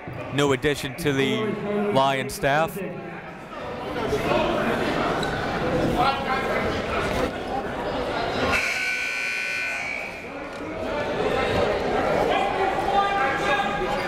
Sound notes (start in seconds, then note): 3.5 crowd talking; 8.5 buzzer goes off; 10.9 crowd talking